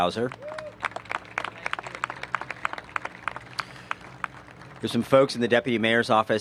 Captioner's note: applause